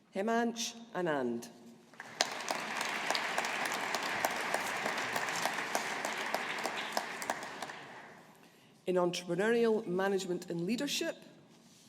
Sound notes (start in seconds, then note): 1.9 audience applauding